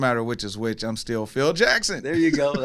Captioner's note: laughs